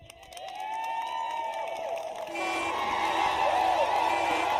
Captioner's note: applause